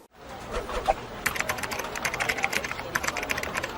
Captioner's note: air whooshing